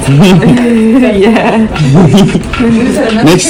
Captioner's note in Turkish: kahkaha